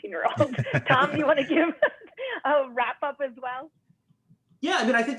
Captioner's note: laughter